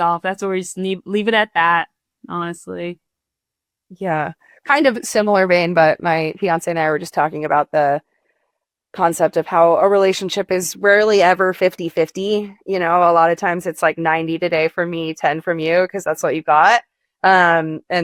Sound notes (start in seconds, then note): none